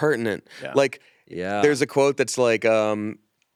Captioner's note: none